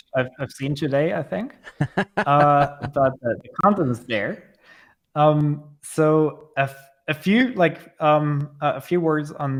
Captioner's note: laughter